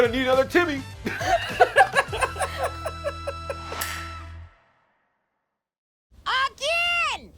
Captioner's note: laughter